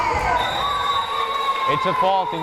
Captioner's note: whistle blares